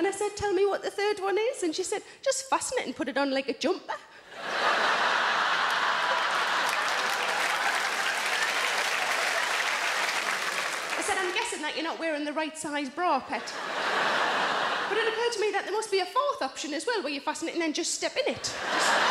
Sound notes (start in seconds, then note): 4.3 audience laughing; 5.0 audience applauding; 13.4 audience laughing; 18.4 audience laughing